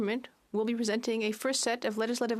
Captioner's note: speaking French